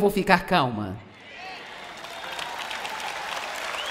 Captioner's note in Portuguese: audiência aplaude